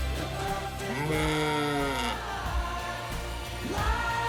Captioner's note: bleating